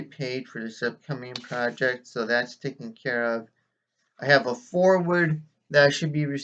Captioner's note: rustling of pages